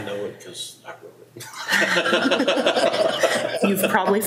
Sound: board members laughing

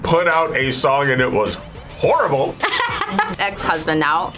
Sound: host laughs

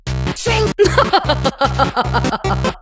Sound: british laugh

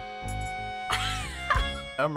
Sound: laughs

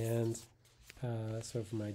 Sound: paper rustling

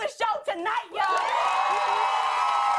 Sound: cheers and applause

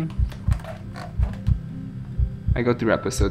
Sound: heartbeats

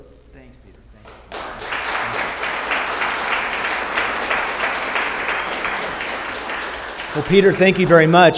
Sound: applause

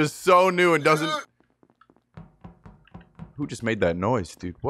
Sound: groans

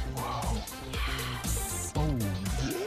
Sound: sighs

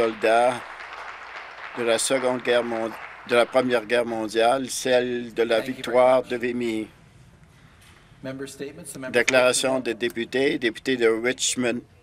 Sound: applause

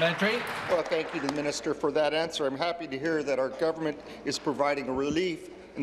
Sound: applause

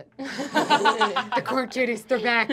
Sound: laughing

